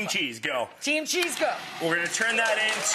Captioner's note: audience applause